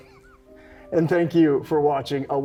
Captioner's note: chuckles